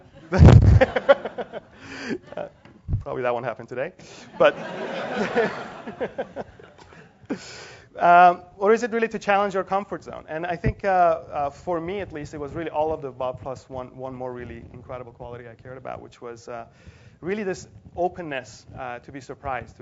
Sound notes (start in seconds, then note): 0.1 laugh; 4.3 laugh